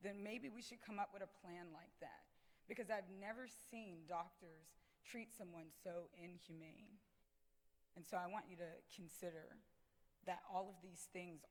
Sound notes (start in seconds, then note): none